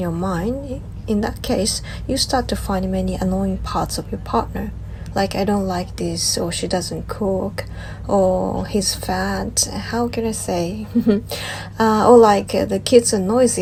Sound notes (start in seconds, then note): 10.9 laughs